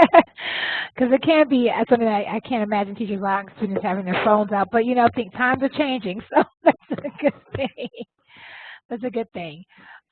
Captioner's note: laugh